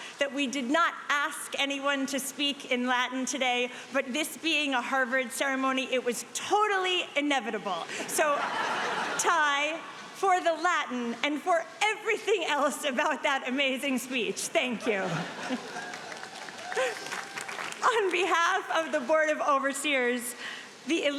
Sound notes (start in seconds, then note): 8.0 audience laughing; 14.8 audience laughing